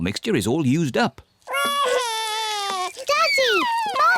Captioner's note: wails